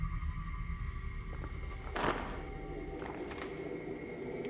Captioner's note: tarp crinkling